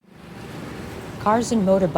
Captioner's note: traffic noises